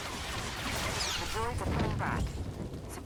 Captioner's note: gun firing; speaking in foreign language